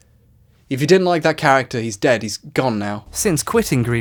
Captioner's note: deadpan